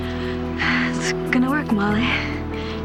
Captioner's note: exhales